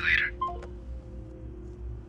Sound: call ends

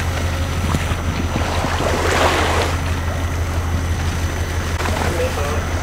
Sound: sounds of cranes and water flushing

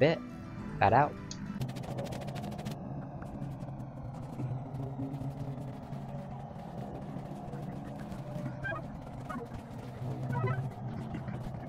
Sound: Rift anomaly sounds

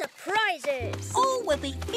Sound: laughter

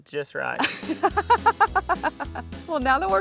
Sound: laughing

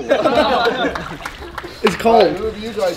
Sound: laughing

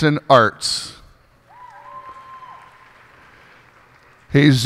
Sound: cheers and applause

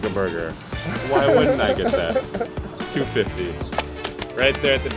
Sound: laughter

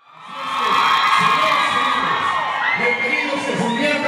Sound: crowd cheering

